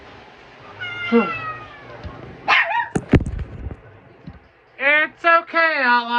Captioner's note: meows in discomfort; Ella barks